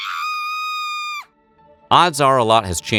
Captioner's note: screaming